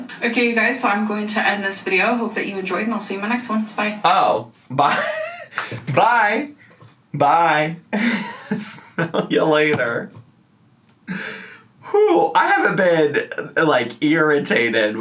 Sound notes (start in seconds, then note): 7.9 laughs